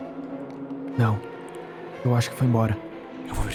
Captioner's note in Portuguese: sussurra